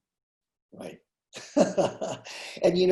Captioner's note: chuckling